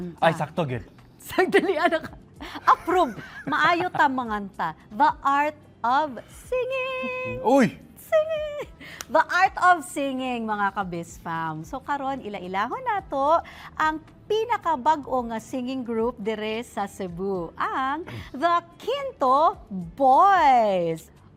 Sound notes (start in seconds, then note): 2.6 laughs; 6.5 in sing-song voice